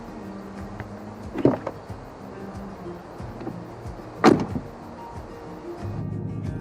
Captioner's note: gentle music; door closes; engine idling